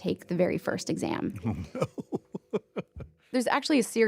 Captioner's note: laughs